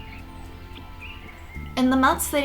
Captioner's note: sound of birds tweeting